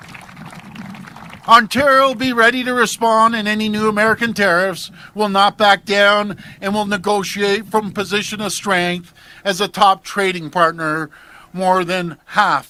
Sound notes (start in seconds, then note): 0.0 applause